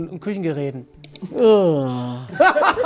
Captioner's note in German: Lautes Gähnen